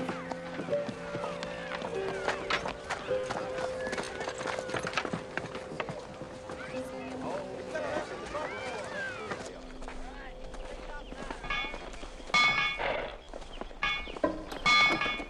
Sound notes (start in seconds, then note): 11.9 clanging